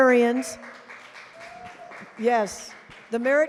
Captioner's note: applause